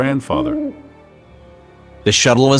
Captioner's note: owl hoots